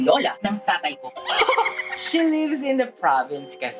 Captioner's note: chuckles